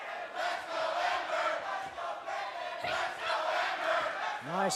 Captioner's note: fans chanting